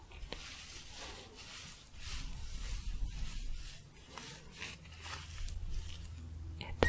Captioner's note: scratchy shuffling